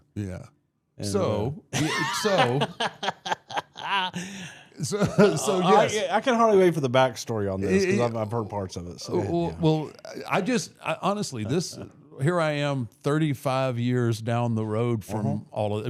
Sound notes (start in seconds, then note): 1.7 laughing